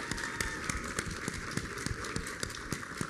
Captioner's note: applause